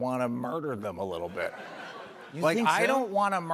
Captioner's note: laughter